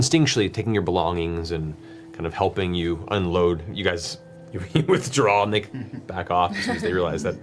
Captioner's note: laughs